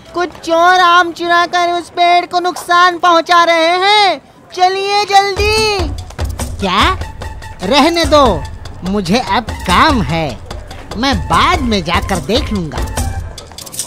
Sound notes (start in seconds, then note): none